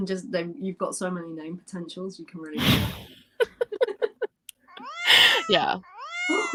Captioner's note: laughter; miaow sound; laughter